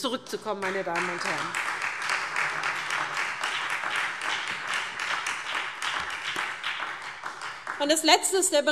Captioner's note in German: Beifall SPD